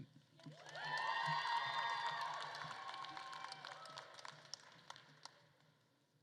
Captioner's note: attendees cheering and applauding